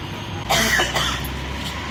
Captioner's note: loud coughs